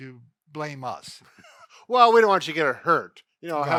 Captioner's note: laughs